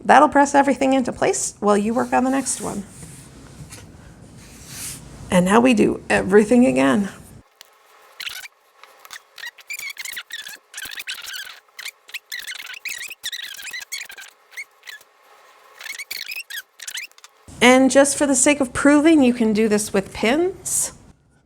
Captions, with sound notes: That'll press everything into place while you work on the next one. And now we do everything again. (video fast-forward trilling) And just for the sake of proving you can do this with pins.